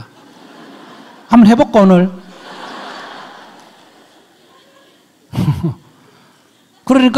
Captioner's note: audience laughs